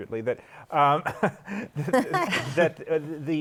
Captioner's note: laughter